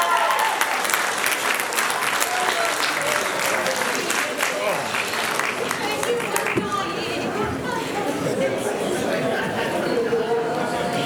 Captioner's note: applause